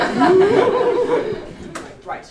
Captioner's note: laughter